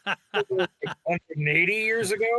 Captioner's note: laughing